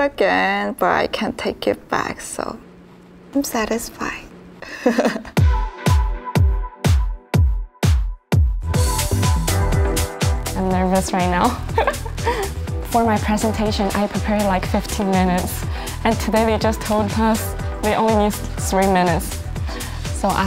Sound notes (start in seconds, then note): 4.7 laughs; 11.7 nervous laugh